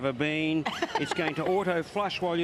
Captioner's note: laughing